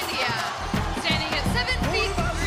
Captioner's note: crowd cheering